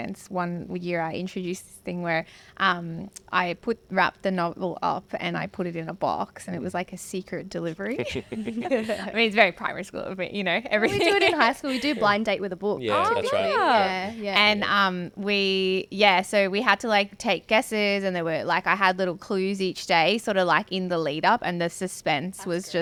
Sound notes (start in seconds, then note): 7.8 all laugh